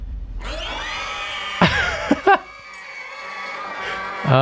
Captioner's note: scream